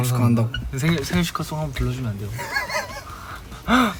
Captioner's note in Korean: 헛웃음